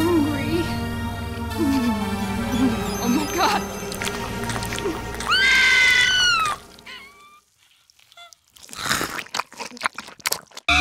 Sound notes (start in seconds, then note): 5.2 Micki screams; 7.8 chomping